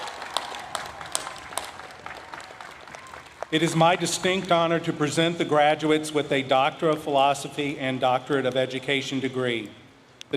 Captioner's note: applause